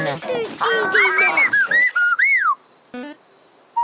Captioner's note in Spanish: pía